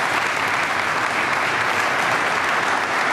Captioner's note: applause